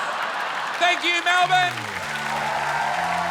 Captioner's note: laughter; applause and cheering